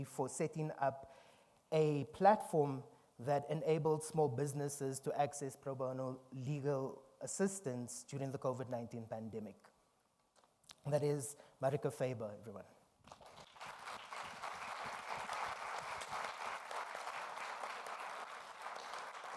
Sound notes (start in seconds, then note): 13.0 audience applauding